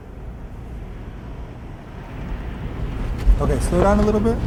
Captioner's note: air whooshing